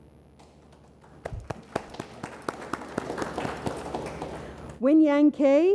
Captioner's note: audience applauds